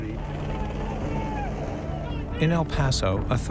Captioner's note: people shouting in distance